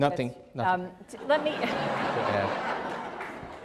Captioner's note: laughter